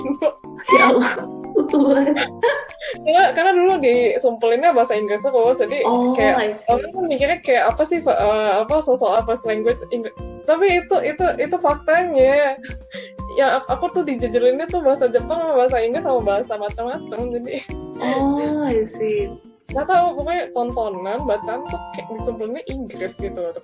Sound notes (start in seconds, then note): 17.4 laughs